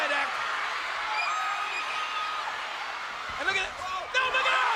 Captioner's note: audience cheering